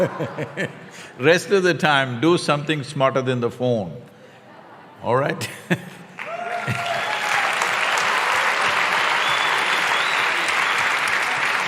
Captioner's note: Sadhguru laughs